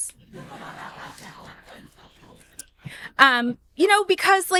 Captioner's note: audience laughing